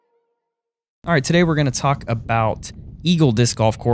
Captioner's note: voiceover